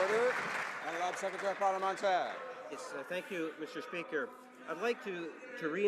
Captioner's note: some Applause